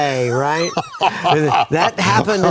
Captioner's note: laughs